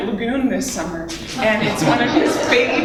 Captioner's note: laughter